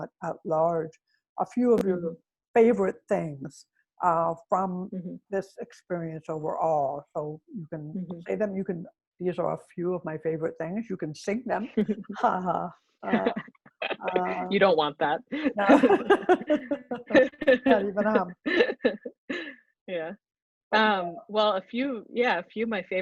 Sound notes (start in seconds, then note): 13.1 laughter; 15.3 chuckles; 15.4 laughter